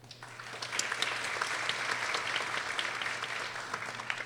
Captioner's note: people applauding